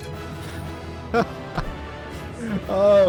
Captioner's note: laughter